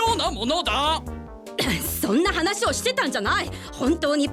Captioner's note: scoffs